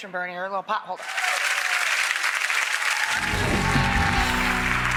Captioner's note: audience applauds